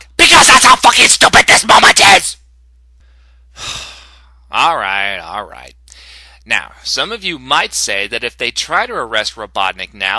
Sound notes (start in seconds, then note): 3.5 sigh